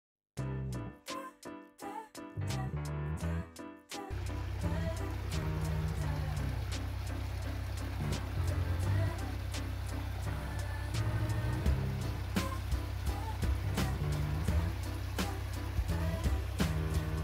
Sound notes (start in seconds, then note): 0.0 title Music; 4.1 diesel Engine noise & the sound of running water